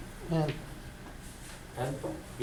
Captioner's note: voiceover